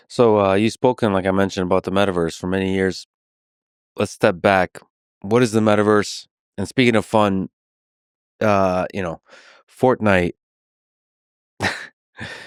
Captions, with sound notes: - So you spoken, like I mentioned about the metaverse for many years. Let's step back, what is the metaverse? And speaking of fun, you know, "Fortnite," (laughs)